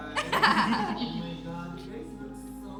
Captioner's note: laughs